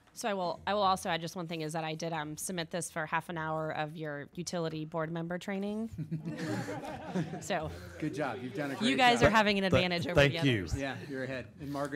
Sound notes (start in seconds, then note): 6.0 laughing